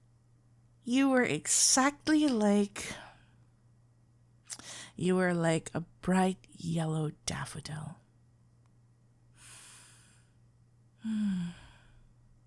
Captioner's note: A slow exhale